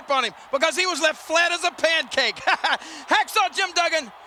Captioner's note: chuckles